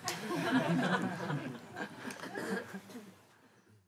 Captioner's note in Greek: γέλια